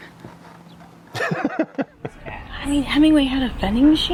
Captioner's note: chuckles